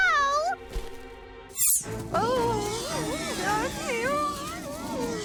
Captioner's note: mumbles